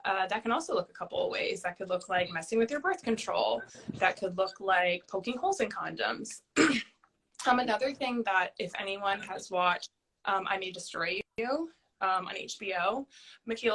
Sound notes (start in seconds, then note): 6.6 clearing throat